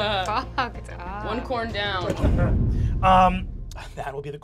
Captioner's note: dramatic booming